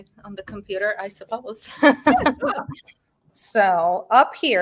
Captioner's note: woman chuckling